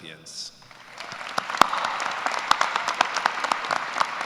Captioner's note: applause